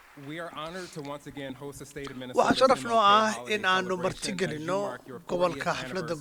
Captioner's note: applause